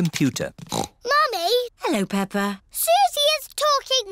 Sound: snorts

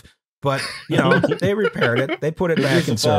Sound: laughter; laughs

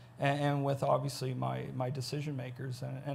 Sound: none

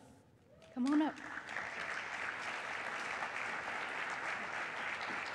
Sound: applause

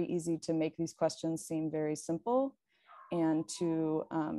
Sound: dog howling

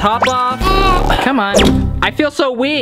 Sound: struggling

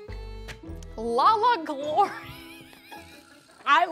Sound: laughs

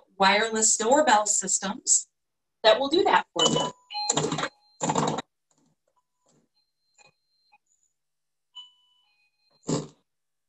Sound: sound of door bell

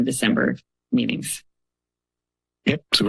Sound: silence

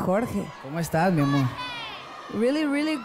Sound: speaks in Spanish

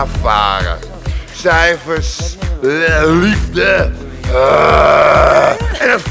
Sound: puking noise

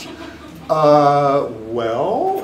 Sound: audience laughing

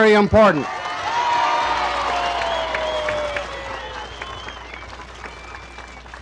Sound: crowd cheering and applauding

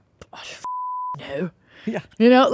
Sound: beep

